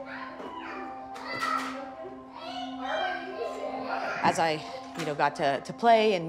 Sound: children shouting

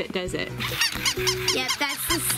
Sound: toy dog yips

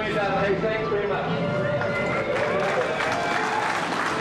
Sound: all cheering and applauding

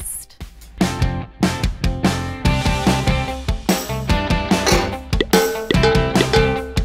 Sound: upbeat rock music; bucket clanging

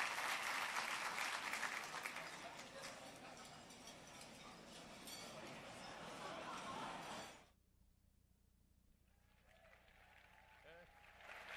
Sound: applause

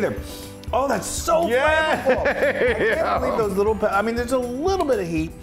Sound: laugh

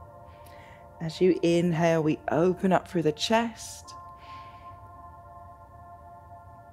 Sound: serene music continues; inhales

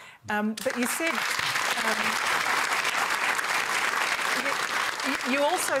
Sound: applause

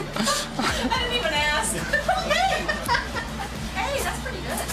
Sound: laughing

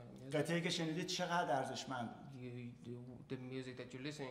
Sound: speaking in farsi

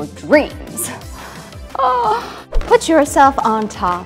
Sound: gasps

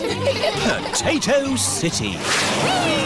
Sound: all giggling

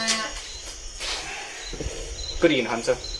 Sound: sighs

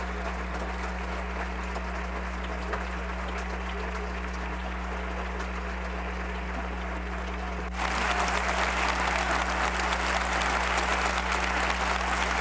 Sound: applause

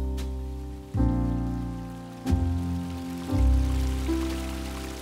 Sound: sound of a stream

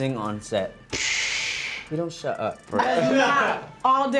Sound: laughs

